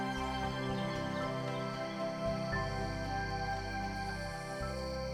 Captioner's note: insects chittering